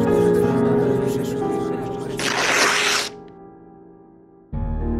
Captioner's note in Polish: trzask przedartej kartki